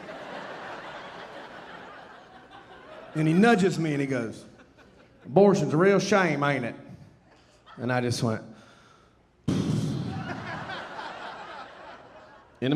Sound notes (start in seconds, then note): 0.0 audience laughing; 9.5 sighing; 9.8 audience laughing